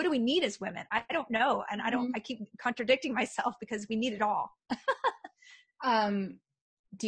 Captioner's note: laughs